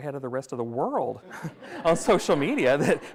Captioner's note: everyone laughs